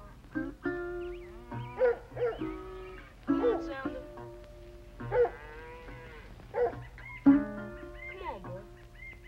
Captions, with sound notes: [Barking] >> Come on, Sounder. Come on, boy.